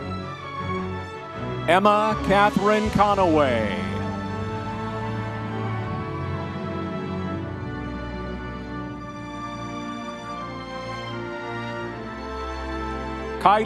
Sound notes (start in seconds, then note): 4.5 audience members cheering; 8.4 soft dramatic orchestral music continues